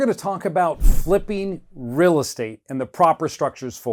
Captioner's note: loud whoosh